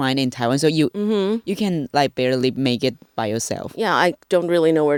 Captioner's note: mmm